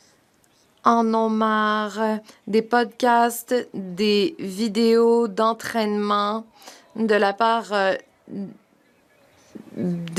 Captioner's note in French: voix de l'interprète